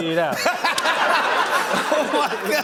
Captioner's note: laughter